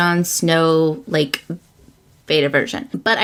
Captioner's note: none